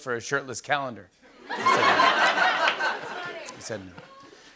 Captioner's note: laughter and applause